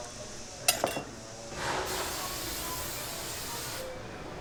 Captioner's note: spraying